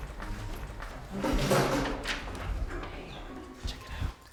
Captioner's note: chair scraping; soft gentle dramatic music